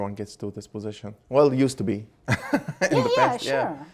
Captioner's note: laughing